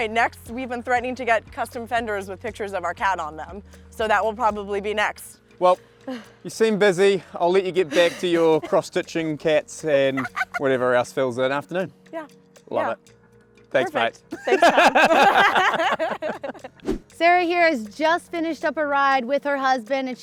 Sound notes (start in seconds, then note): 10.1 laughs; 14.3 both laughing